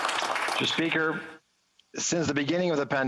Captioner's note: applause